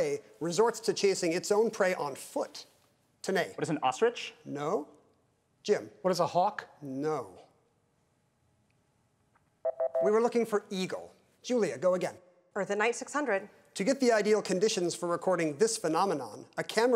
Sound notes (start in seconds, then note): 9.6 timer beeping